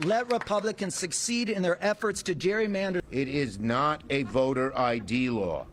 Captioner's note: applause